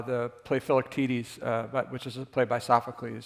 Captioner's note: none